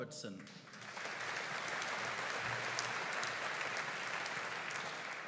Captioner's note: audience applauding